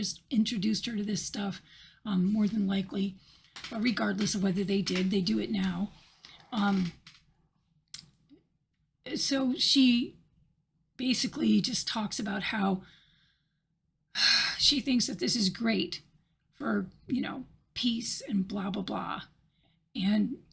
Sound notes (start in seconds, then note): 12.0 sighs